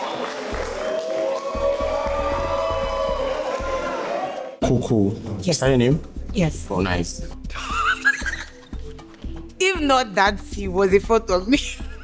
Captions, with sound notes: [crowd cheers] [crowd clapping] [crowd cheering] [crowd cheering] Koko? Yes. Is that your name? Yes. Well nice. [laughs] If not that, he was in front of me.